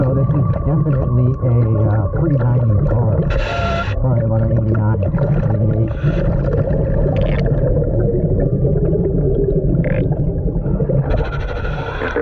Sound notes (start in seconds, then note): 6.2 ominous music continues; 6.2 water bubbling; 11.4 birds chirping; 11.4 mouthpiece hissing